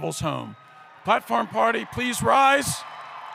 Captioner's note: cheering